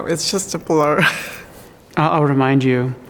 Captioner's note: laughs